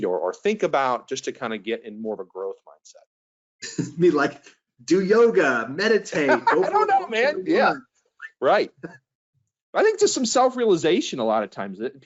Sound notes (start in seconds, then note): 6.2 chuckles; 6.2 laughs